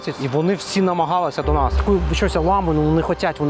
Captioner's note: speak Ukrainian